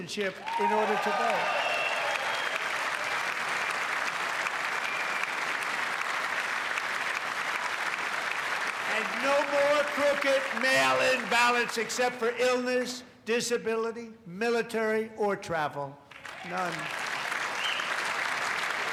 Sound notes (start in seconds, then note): 0.1 cheers and applause; 12.5 cheers and applause